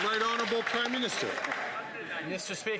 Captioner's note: some Applause